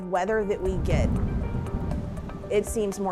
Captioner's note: strong winds blowing